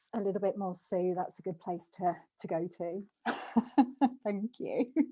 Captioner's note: laughs